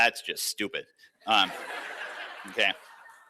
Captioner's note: laughter